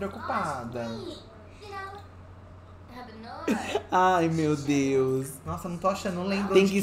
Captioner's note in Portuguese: Sims conversam